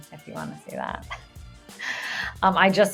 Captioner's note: woman laughing